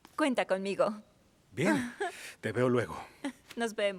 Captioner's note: Esperanza ríe